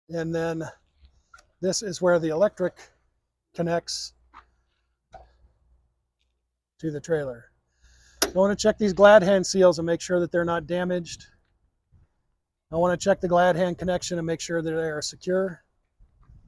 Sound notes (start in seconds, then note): 8.2 metal clanks